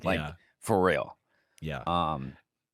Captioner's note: laughs